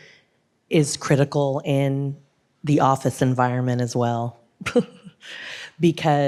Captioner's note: chuckles